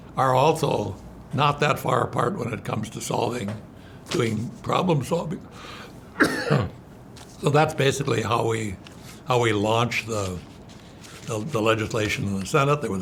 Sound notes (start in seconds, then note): 6.1 coughs